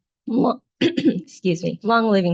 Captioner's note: clears throat